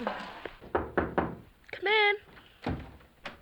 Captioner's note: knocking on door